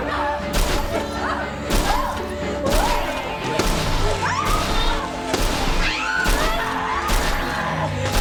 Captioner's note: crashing